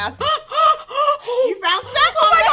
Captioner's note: gasps